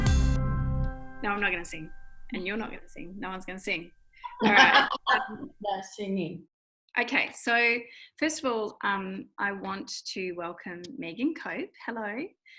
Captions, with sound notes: - No, I'm not gonna sing. And you're not gonna sing, no one's gonna sing. All right. (laughing) - No singing. - Okay, so, first of all I want to welcome Meghan Cope, hello,